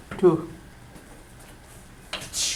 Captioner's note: voiceover